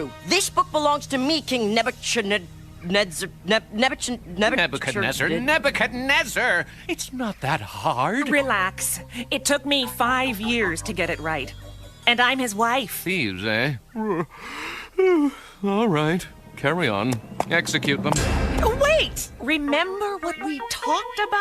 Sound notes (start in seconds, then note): 13.9 yawning